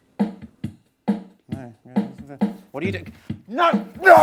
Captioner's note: mutters